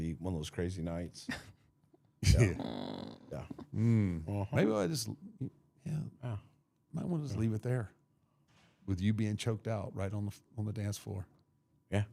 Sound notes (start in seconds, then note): 2.2 hated man chuckling; 2.2 blue vested woman chuckling; 2.3 blue vested woman moaning